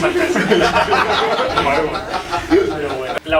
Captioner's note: laughs